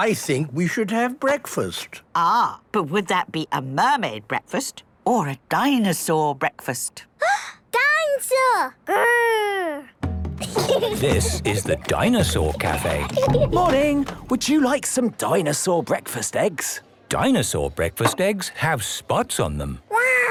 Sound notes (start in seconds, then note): 7.5 gasps; 10.4 children giggling